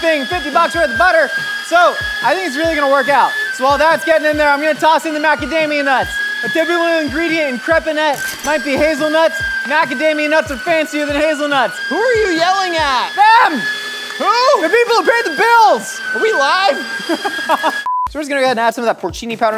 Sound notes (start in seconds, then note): 11.7 yelling over grinder; 11.8 yelling louder; 17.0 laughter; 17.8 beep